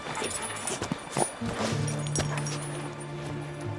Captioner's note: footsteps; jangling